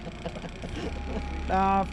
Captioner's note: laughing